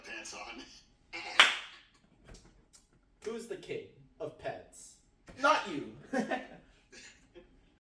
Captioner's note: clap